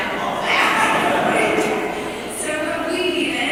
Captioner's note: laughter